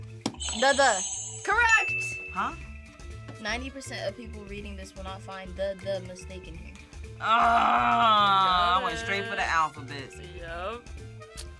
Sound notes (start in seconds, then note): 0.1 buzzer rings; 0.3 bell rings